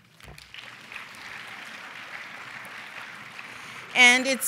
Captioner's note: applause